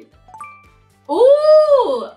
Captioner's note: notification chiming